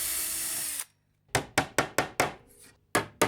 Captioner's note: hammering